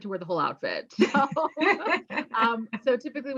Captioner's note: laughing